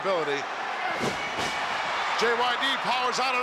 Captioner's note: crowd cheers